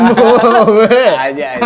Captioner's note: laughing together